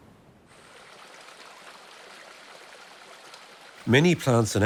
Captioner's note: water gushing